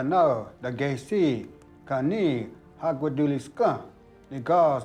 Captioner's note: Ostenaco speaking Cherokee